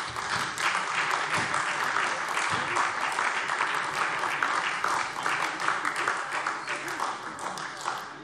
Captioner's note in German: Beifall SPD und DIE LINKE